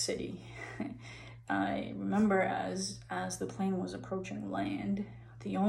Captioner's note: chuckles